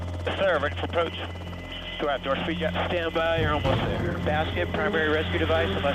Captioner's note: man Over Radio; person Over Radio